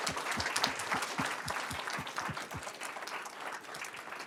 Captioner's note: audience clapping